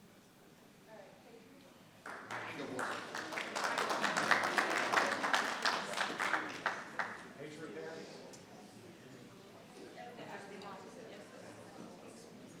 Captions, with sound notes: All right. Thank you. (audience clapping) (people chattering)